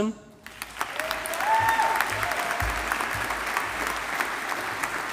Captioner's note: audience applauding